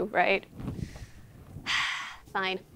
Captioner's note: sighing